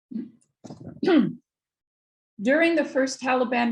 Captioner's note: clears throat